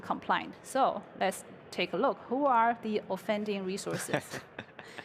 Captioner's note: laughter